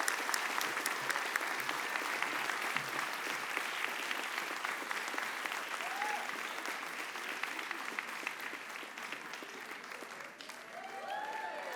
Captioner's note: applause